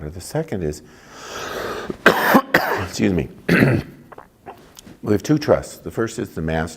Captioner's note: coughing